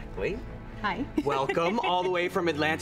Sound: laughs

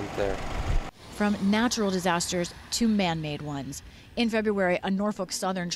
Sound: voice-over

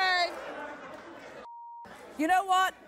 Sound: audience laughing

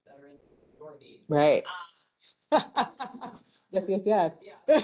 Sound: laughs

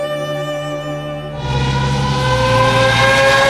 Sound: engine sound

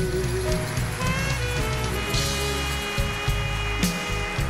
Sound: audience applauding

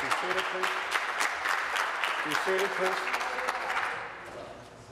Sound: applause

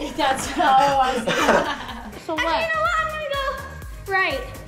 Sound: laughing

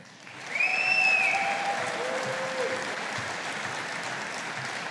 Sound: audience applauding

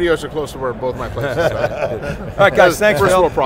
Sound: men laugh

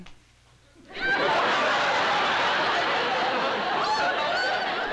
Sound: laughter

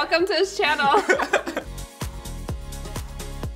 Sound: laughs; upbeat music

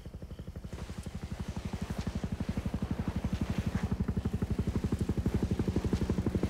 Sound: distant helicopter blades whirring

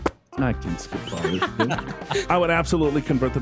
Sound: spitball sound effect; laughing

